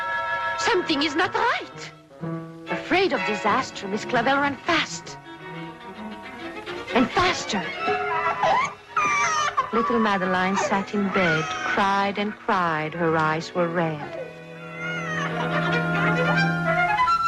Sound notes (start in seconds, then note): 11.5 Madeline cries